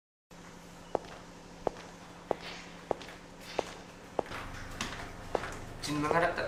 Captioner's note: sound of shoes